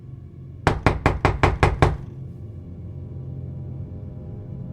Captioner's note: fist pounding